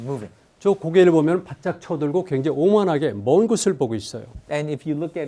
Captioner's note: speaking in Korean